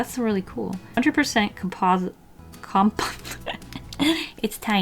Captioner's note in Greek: γέλια